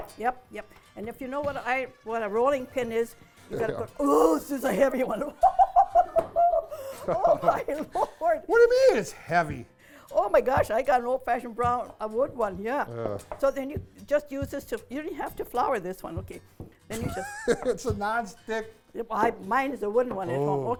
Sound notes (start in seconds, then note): 7.6 laughing